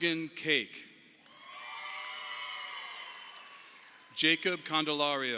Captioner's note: audience applauding